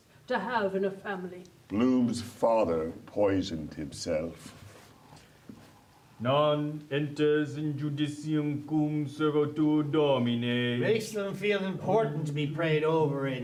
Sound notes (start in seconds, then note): 9.9 continues quietly in mumbo jumbo Latin